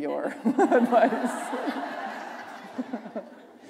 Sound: laughter

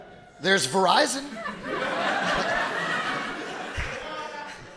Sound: audience laughing

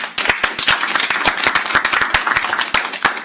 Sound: audience applauds

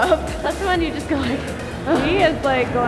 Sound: heavy breathing

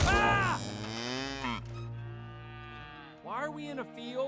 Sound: cow mooing

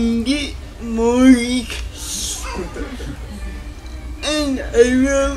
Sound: laughter

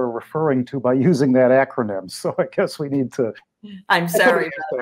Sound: laughs

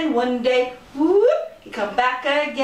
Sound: whoooop!

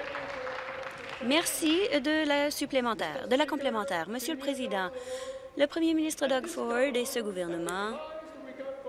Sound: applause

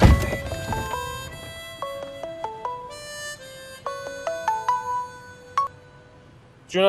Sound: mobile ringing

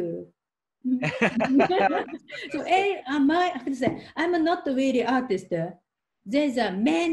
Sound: both laughing

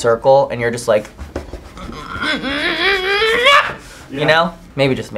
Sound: grunts

